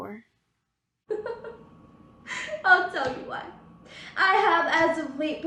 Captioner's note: laughs